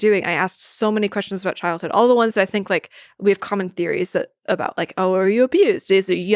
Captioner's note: none